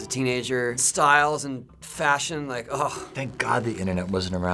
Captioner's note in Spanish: gemidos